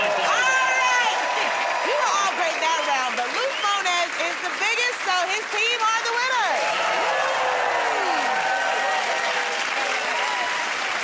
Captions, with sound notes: -All right! You were all great that round, but Luke Mones is the biggest, so his team are the winners. [ Cheers and applause ]